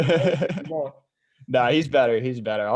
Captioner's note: laughs